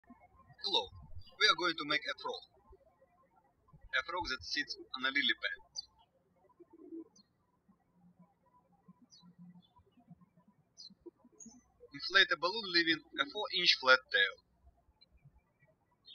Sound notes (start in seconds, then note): 0.1 birds chirping; 6.6 birds chirping